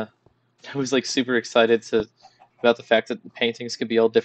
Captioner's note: laughs